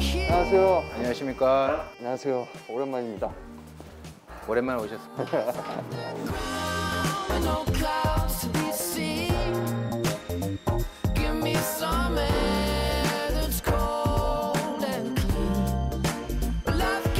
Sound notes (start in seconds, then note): 5.0 haha